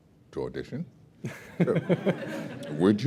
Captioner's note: laughter